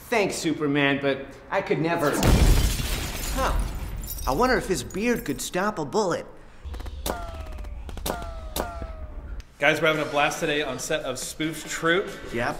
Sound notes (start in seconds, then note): 2.2 glass shattering; 2.7 objects thudding; 6.6 gunshots booming